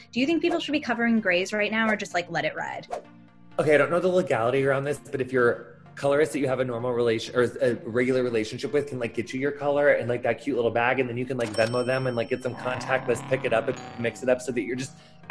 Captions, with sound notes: Do you think people should be covering grays right now or just like let it ride? - Okay, I don't know the legality around this, but if your colorist that you have a normal relation, or a regular relationship with can like get you your color in like that cute little bag and then you can like [cash register ding] Venmo them and like get some contactless [car engine rev] pick it up [doorbell ring] and mix it up so that you're just...